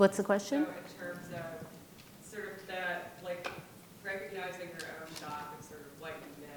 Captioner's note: woman speaks off microphone